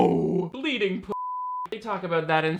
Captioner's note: beep